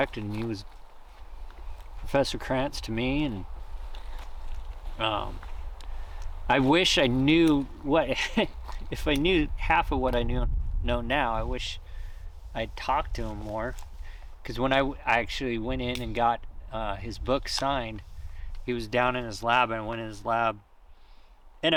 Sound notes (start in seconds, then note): 8.0 laughs